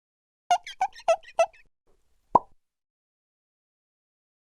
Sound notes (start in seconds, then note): 0.5 squeaking; 2.3 pop